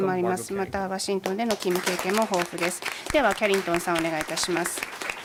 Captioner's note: applause